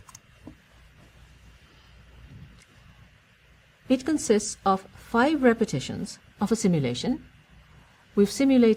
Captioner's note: pause